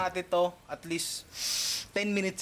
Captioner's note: sniffs